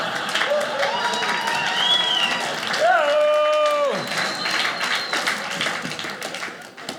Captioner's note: audience laughing; audience cheering